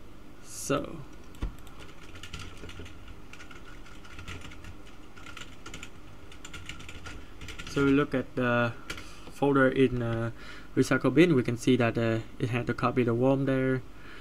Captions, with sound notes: So [keyboard intensifies] So we look at the folder in recycle bin we can see that it had a copy of the worm there.